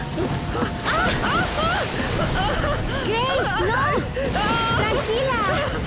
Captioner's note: Grace screams